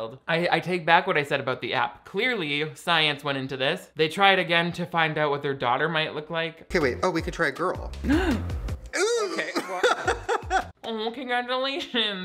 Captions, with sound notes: I take back what I said about the app. Clearly, science went into this. They try it again to find out what their daughter might look like. - Okay, wait. Oh, we could try a girl. (gasps) Ooh. - Oh, okay. Well. (Shane laughs) - Oh, congratulations.